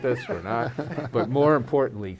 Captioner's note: laughs